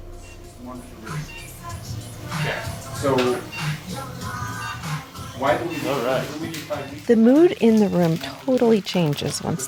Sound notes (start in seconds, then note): 1.0 heart monitor beeps; 6.1 energetic background music